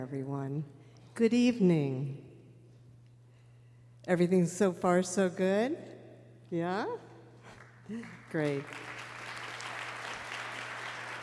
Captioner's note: applause